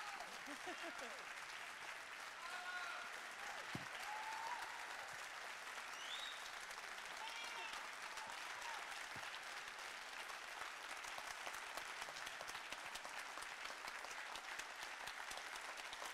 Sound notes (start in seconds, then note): 2.3 audience cheering